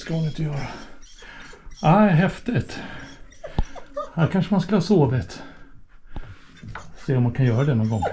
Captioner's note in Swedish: skratt